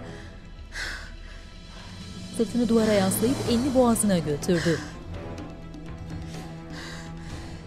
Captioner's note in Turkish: Nefes sesi